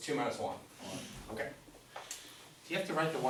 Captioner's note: voiceover